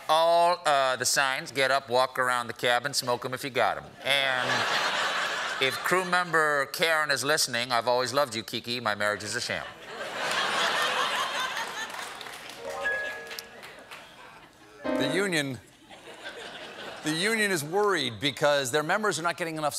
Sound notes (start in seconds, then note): 12.0 laughter; 12.0 piano riff